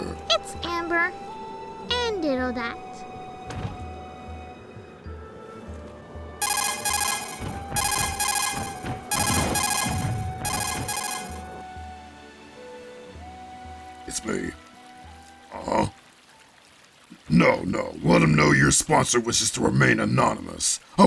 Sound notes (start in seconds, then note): 6.4 Codec ringtone